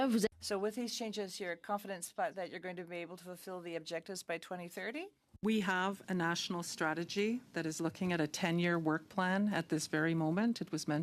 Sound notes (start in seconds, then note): 0.8 speaking French